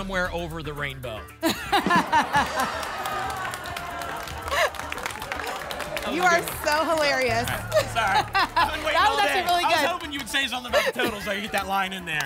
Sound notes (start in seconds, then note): 2.8 laughter and applause